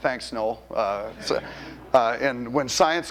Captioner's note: audience laughter